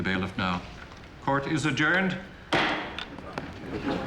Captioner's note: gavel bangs